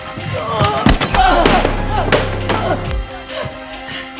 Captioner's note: dramatic music; Caroline moaning; dramatic music